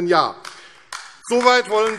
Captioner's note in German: Beifall AfD